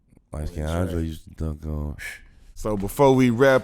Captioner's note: murmurs